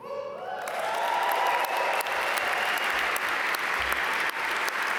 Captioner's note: audience cheer and applaud